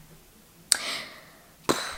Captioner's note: big inhale and blowing out air